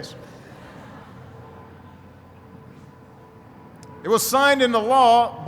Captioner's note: laughing